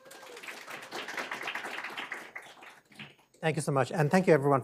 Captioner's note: attendees applauding